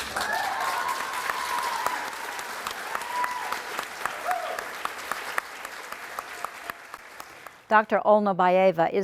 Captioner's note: applause